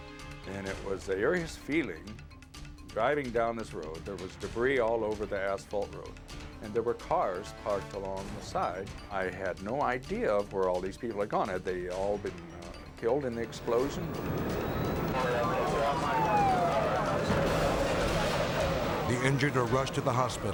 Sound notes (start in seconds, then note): 13.4 sirens blaring